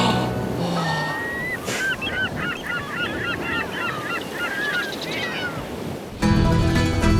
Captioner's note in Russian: шум моря, крик чаек